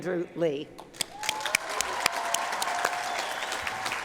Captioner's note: cheering, applause